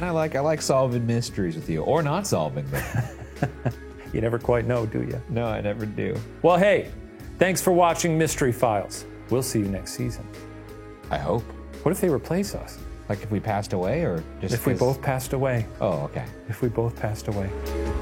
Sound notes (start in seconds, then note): 2.7 laughs; 17.8 mysterious music